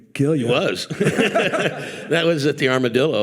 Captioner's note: participants laughing